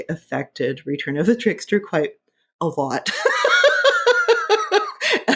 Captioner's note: laughing